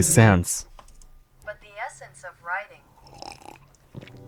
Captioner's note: Google Translate voice